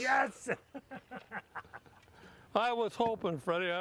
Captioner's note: laughs